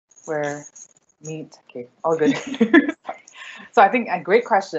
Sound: laughs

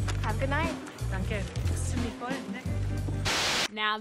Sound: speaks in foreign language

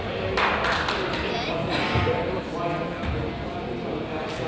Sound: crowd applauds

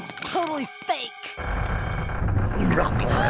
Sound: creaking; grumbling, gasping

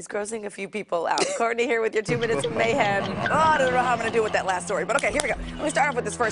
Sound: laughter

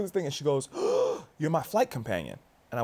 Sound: gasps

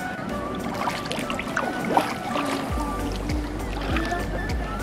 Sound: water splashing

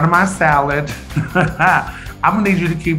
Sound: Eureka laughing

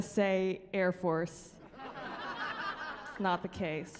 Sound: laughing

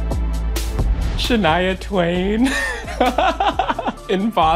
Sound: laughs

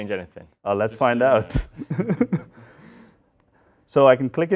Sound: laughter

